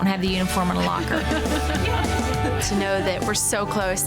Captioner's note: laughing